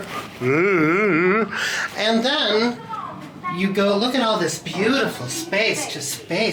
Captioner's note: hums